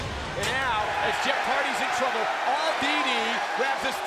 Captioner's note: crowd cheering